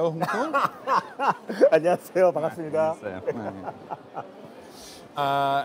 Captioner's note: laughs